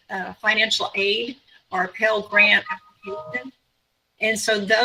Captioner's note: computer tone dings